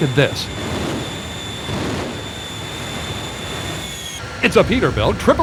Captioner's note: engine roars and whines